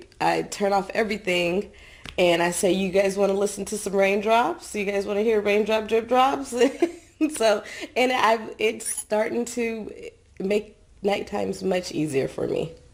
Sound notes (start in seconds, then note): 7.4 laughs